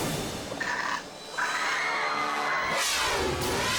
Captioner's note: fox snarls; patrons screaming; dramatic music